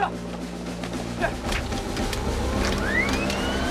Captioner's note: engine Starting